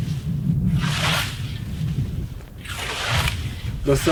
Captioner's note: scythe mowing